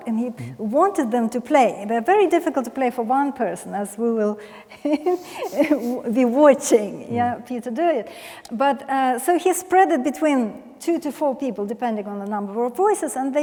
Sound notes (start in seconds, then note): 4.8 laughs